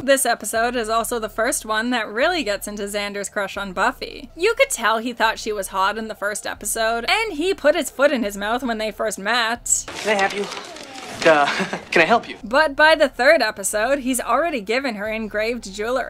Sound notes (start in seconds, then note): 10.9 chuckles